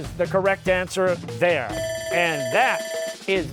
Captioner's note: bell ringing